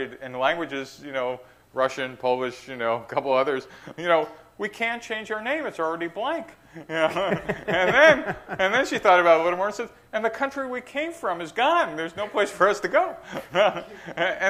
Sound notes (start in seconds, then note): 6.8 laughter